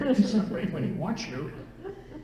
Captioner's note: laughter